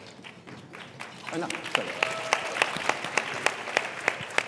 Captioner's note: audience applauds